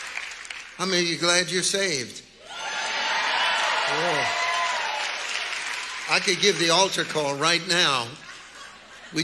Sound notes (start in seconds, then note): 2.4 congregation cheering; 7.3 congregants laughing